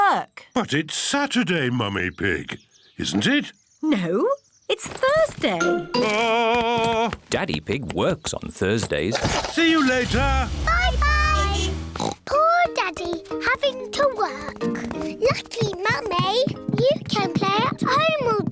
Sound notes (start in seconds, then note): 10.5 horn beeps; 11.0 oinks